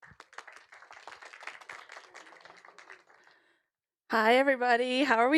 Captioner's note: applause